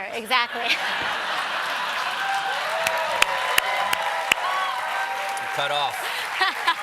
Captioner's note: cheers and applause; laughter